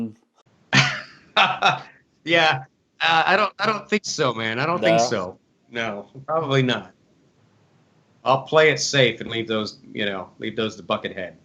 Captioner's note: laughs